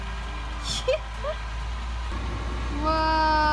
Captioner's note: laughing